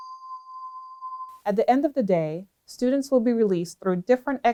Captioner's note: bell tone